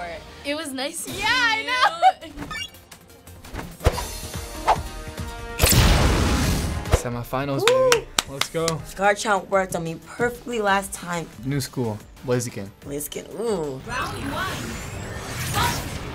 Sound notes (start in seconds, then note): 3.8 adventure music; 5.6 flames burst